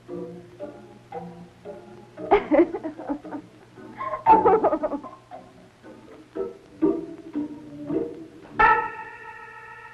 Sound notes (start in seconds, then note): 3.9 witch laughing; 6.9 stirring music